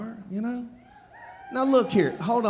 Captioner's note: audience cheering